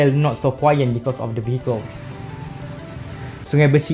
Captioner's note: vroom vroom